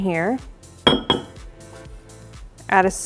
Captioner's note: mug clanging